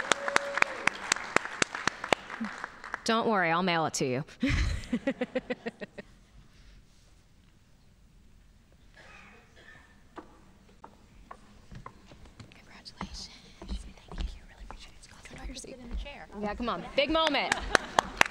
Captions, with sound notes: Don't worry, I'll mail it to you. (laughs) Congratulations. Big moment.